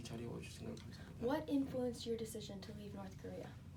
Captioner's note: speaking korean